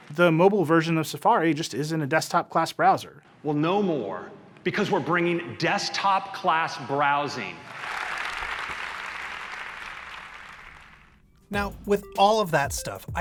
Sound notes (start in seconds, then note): 7.7 audience applauds; 11.5 quirky electronic music